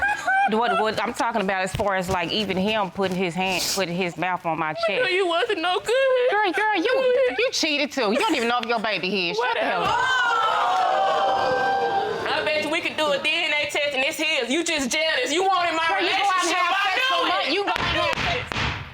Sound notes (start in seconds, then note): 0.1 crying; 9.8 audience exclaiming